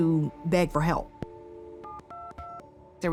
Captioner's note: phone dialing